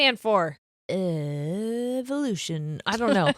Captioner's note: laughing